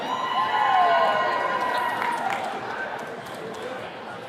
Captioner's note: attendees cheering